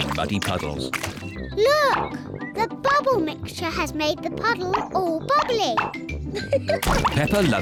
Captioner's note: laughs